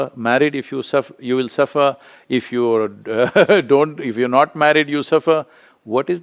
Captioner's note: laughs